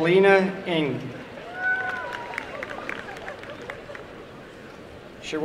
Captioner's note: applause and cheering